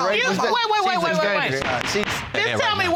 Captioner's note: bangs gavel